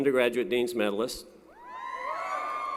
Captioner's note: applause & Cheering